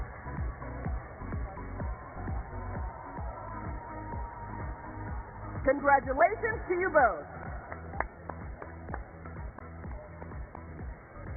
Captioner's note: cheers and applause